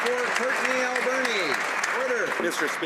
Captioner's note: some Applause